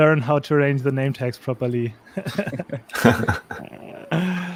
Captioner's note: chuckles